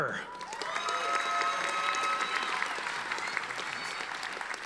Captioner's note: audience applauding